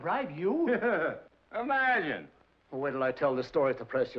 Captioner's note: scoffs